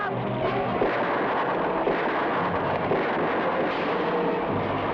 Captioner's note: gunshots blast